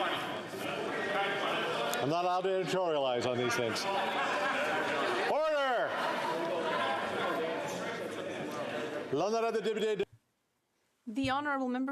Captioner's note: yelling